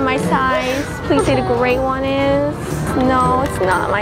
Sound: whimpers

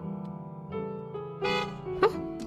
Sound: honk

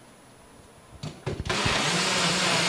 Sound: blender sound

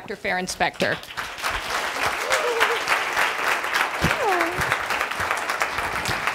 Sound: audience applauds

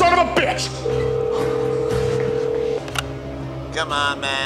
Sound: phone ringing

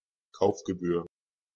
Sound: fast Pronunciation

